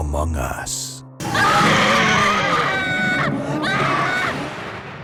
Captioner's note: screaming